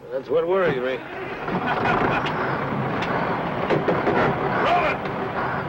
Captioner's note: engine sputters and starts